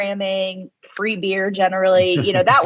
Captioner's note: laughs